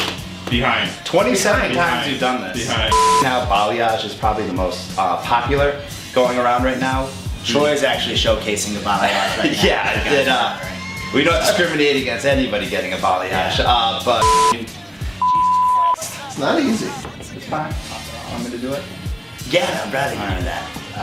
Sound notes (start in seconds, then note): 2.9 beeps; 8.9 laughs; 14.2 beeps